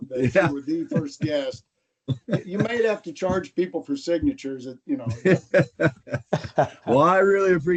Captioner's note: laughter